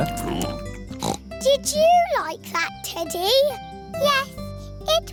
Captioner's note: snorts